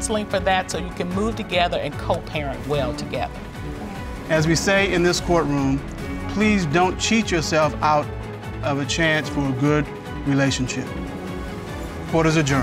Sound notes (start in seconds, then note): none